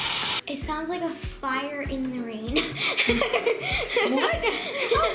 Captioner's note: laughing